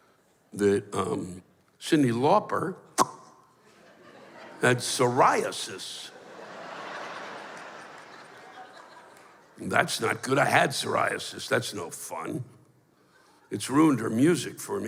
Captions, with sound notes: that, um... Cyndi Lauper [pops] had psoriasis. That's not good, I had psoriasis. That's no fun. It's ruined her music for me